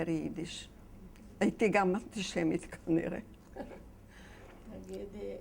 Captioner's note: chuckling